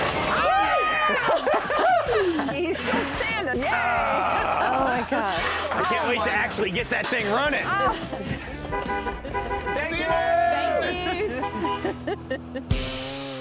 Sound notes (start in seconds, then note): 8.4 honking; 11.5 laughs